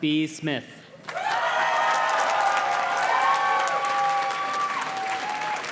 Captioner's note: audience cheers and claps